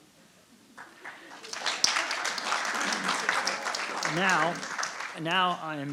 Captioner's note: audience applauding